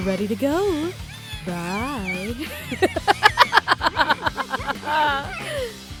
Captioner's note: muffled distressed noises; laughter